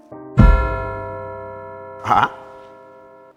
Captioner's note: bell rings